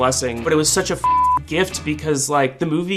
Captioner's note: beep